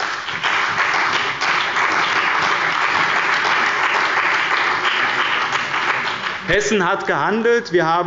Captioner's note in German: Beifall bei dem BÜNDNIS 90/DIE GRÜNEN und der CDU